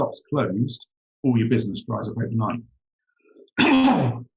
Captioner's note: coughs loudly